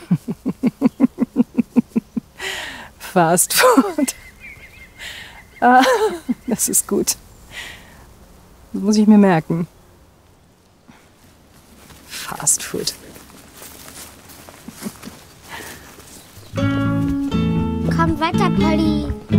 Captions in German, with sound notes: (lachend:) Fastfood. (lachend:) Das ist gut. Muss ich mir merken. Fastfood. (Fröhliche Musik) Komm weiter, Polly.